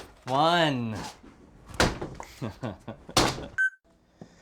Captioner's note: laughs